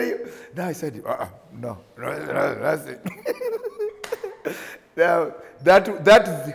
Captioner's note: grumbles